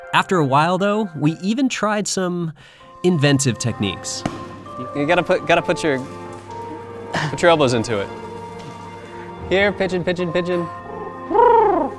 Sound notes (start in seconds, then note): 4.2 loud stomp